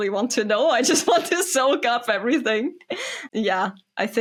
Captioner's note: laughs